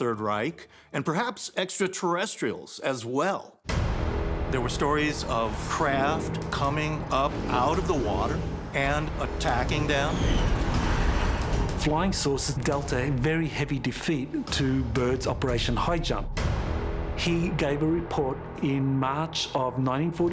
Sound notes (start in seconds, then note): 10.2 whooshing